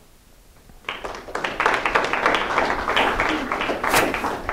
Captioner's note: applause